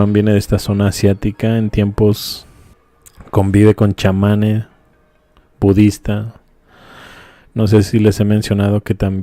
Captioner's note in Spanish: suspiro